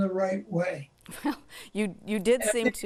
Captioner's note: chuckles